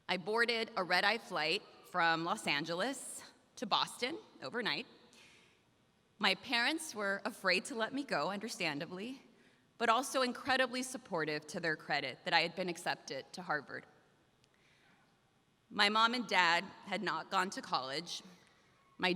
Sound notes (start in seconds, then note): none